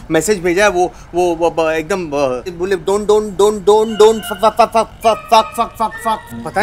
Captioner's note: stammering